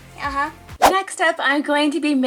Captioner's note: whoosh